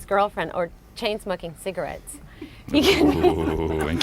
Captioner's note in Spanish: laughs